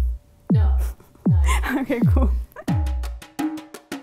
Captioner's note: laughs